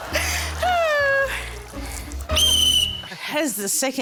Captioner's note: sighs; blows whistle